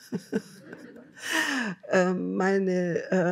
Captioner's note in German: Lachen